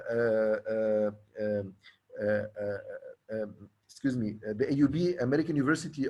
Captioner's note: stammering